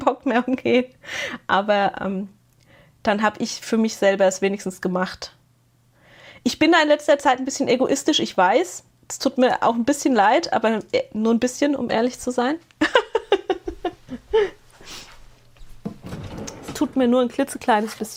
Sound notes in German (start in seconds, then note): 12.8 gelächter